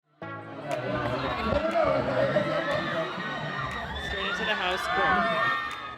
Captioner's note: crowds cheering